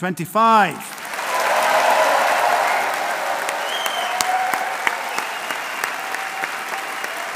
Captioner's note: audience applauding; audience cheering